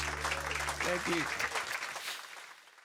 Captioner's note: applause